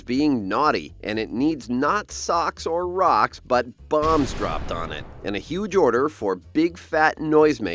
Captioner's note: bomb explodes